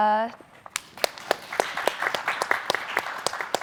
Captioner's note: applause